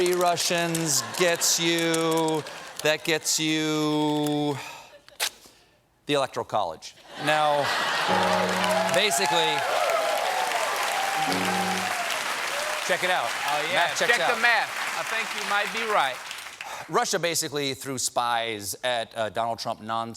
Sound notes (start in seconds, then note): 9.3 cheers and applause